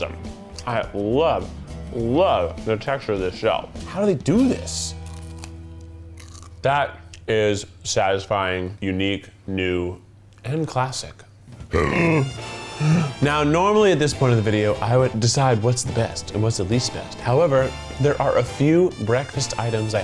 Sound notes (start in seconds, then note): 5.0 pie crunches; 11.7 belches